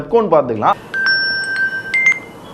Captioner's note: a call comes